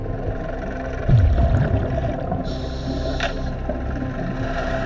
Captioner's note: boat engine humming